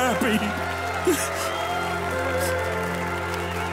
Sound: crying; applauding

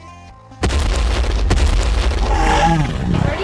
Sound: dinosaur stomping; dinosaur roars

